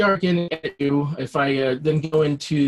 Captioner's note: robotic sounds